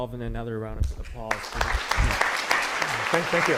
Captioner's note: applause